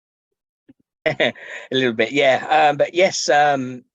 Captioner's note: chuckles